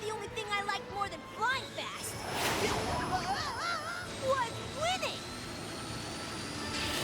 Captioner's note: none